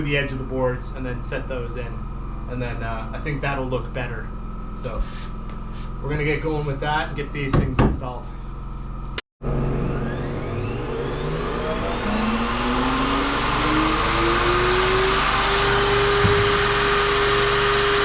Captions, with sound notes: the stringers and then I'm going to glue the edge of the boards and then set those in. And then I think that'll look better. So we're going to get going with that and get these things installed. (motor whirring)